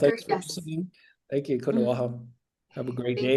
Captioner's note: speaking in foreign language